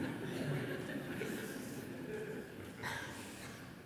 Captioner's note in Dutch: gelach